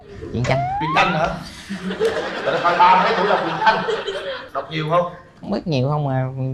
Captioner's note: laughter